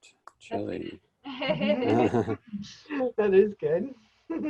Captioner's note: everyone laughing